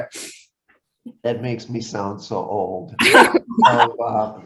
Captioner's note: laugh